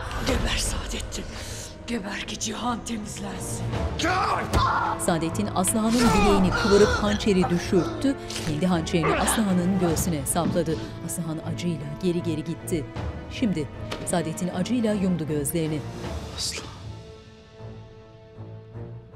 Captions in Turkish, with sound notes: Geber Sadeddin. Geber ki cihan temizlensin. Ah! (Hançer saplanma sesi) (İnleme sesi) (Müzik - Gerilim) Aslıhan…